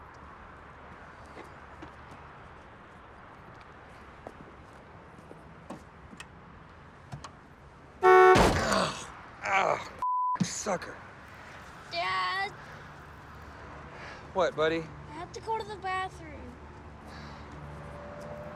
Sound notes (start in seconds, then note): 8.0 heavy sigh; 8.0 loud horn beep